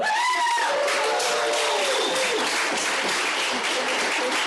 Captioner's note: cheering & Applause